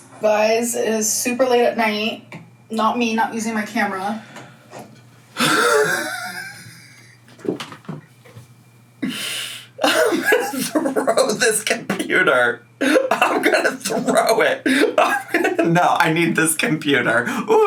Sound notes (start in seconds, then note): 5.4 laughs